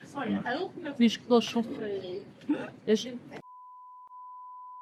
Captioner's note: women speaking Portuguese loudly